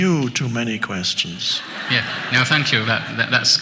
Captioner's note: audience chuckles